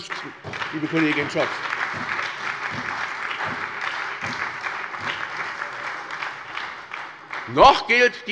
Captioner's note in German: Beifall bei der SPD